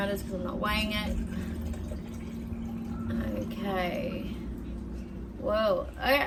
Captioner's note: burble, burble, burble